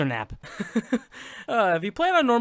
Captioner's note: laughs; sigh